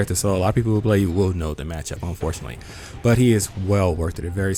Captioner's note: none